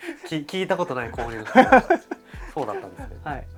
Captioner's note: laughs